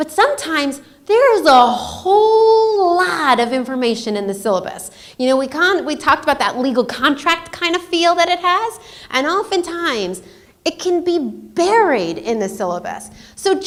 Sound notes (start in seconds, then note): none